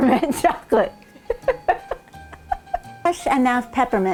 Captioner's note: laughing